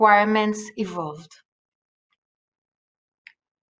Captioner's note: non-english speech